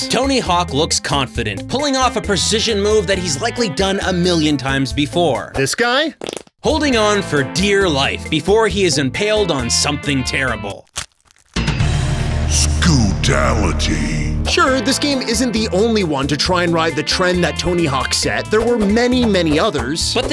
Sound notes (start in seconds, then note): 11.6 music sting; 12.5 booming voice